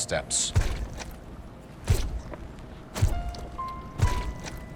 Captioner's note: squishy footsteps